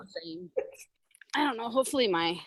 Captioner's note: chuckles